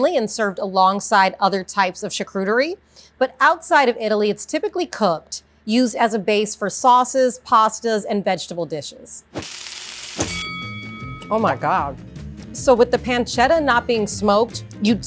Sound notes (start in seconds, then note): 9.3 pan sizzling; 10.1 bell rings; 10.2 upbeat music